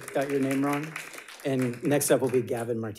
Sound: audience applauding

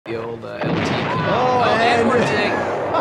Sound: explosion

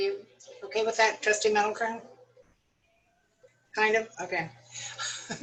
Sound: laughter

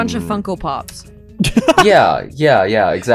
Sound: cackles

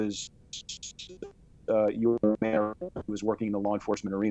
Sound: voice muffled

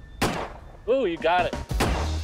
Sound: gunshot

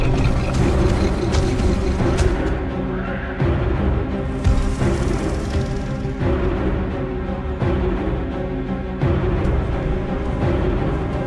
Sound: Scorpius Rex growls; music intensifies

